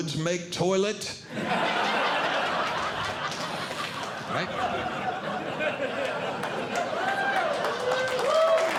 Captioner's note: audience Laughing; audience Clapping